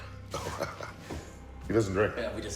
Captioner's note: Tom laughs